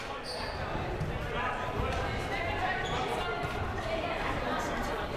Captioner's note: crowd murmuring